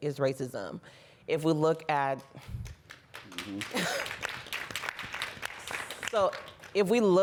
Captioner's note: applause